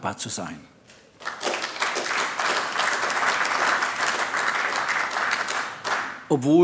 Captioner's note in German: Beifall AfD